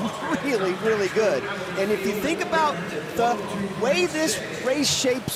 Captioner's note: audience cheering